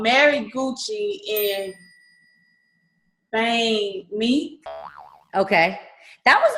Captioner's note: ding; boing